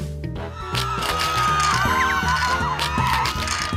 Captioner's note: screaming, fearful noises